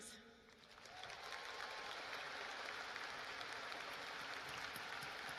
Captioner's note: cheers and applause